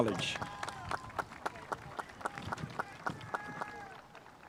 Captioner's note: spectators applauding